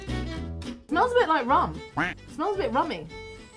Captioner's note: warm festive music; duck quacks